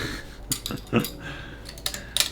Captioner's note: silly laugh